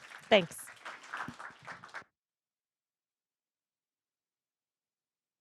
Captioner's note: audience applauds